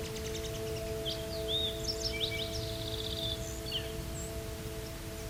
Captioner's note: birds singing